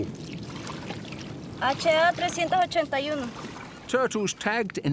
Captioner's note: speaks in foreign language